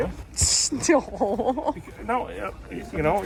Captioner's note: laughing